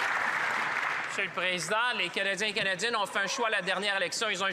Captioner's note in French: applaudissements